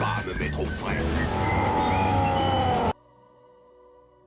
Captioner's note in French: hurlements